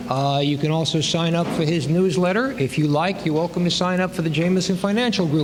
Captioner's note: none